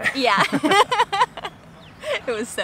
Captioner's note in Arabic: يضحك